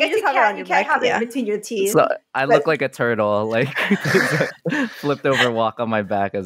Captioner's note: laughter